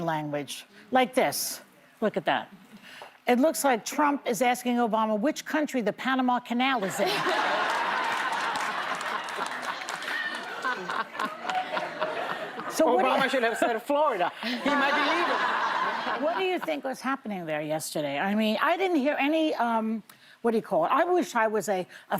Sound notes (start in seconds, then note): 11.4 laughter